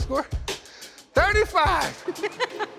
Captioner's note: laughs